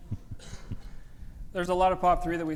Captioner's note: group laughing